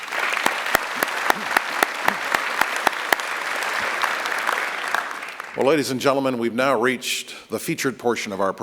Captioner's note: applause